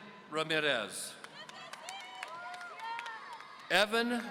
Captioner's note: audience cheering